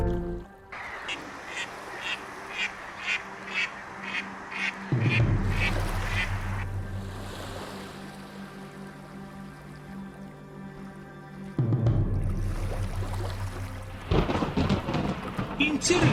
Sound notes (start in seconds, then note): 4.2 the cackle of ducks; 14.0 thunderclap